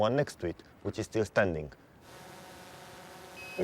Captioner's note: drone buzzing